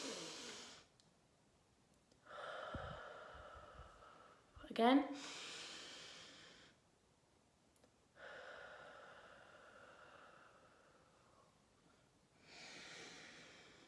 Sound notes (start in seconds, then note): 0.0 inhales; 0.1 exhales; 5.1 inhales